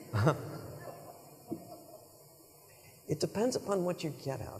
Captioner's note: members of audience laughing